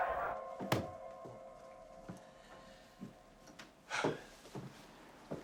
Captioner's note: footsteps shuffle